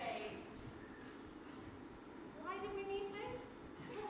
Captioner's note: none